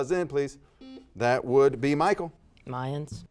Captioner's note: buzzer beeps